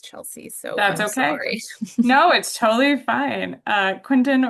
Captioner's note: chuckles